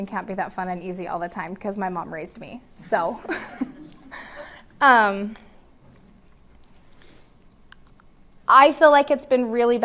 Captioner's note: laughter